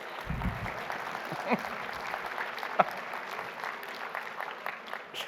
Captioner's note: audience cheering and applauding; laughing